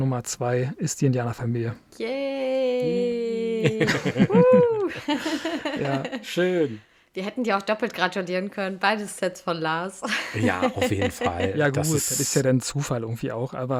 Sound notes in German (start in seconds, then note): 3.6 gelächter; 10.0 gelächter